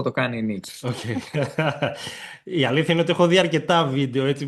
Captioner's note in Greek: γέλια